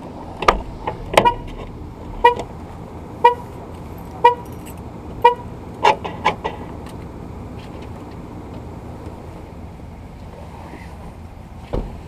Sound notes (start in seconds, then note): 0.8 door opens; 2.0 horn alarm sounds